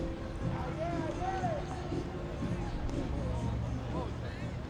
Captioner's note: players yelling